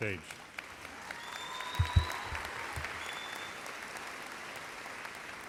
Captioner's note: audience cheers and applauds